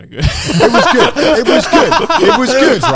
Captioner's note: speakers laughing